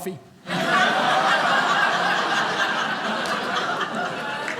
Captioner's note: audience laughing